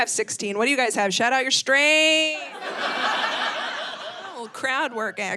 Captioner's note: audience laughing